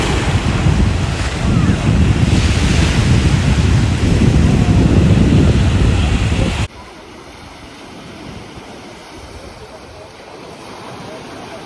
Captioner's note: ocean waves